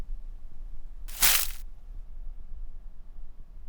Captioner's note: palm frond crunching